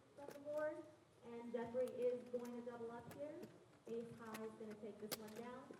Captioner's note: announcer commentating on a side table